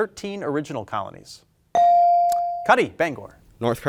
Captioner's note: bell ringing